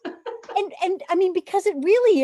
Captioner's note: chuckles